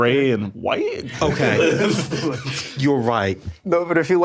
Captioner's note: all chuckling